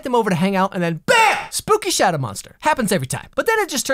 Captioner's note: bam